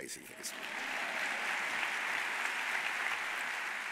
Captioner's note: audience applauds